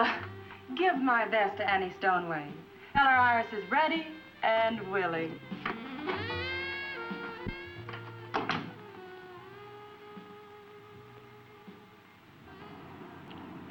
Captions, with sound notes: Oh uh, give my best to Annie Stoneway. Tell her Iris is ready and willing. (uptempo jazz music continues) (door latching)